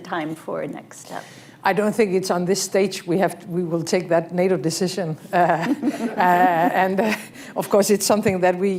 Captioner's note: laughter